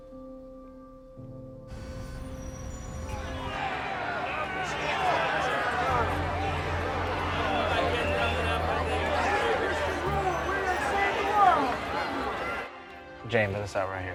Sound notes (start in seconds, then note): 1.5 traffic noises; 2.6 protesters shouting